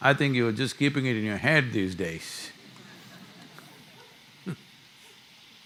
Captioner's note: laughter